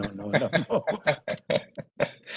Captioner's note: laughing